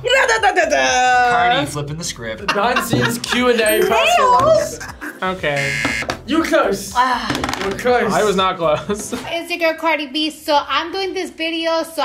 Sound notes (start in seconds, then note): 5.5 buzzer rings; 9.1 laughs